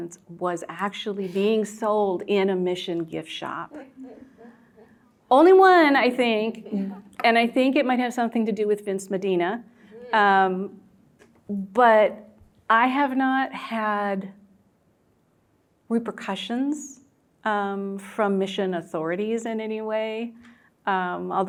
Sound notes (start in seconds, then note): 3.8 students laughing